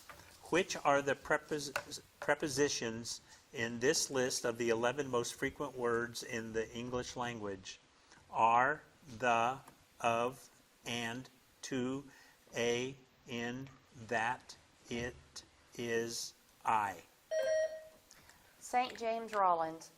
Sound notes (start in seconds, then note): 17.3 bell dings